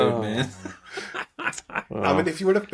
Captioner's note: laughing